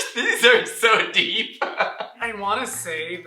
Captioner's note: laughter